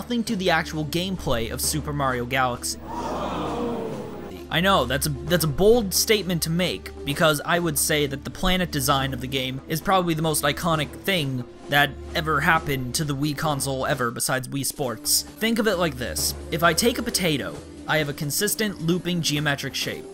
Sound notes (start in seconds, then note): 2.7 multitude gasps